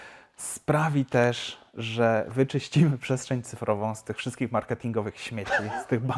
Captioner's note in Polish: śmiech